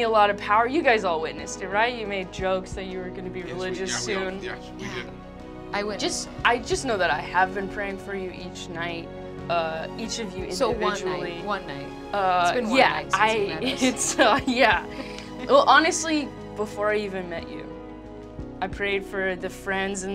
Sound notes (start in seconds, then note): 13.6 chuckling